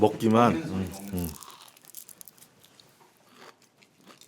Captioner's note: Crunch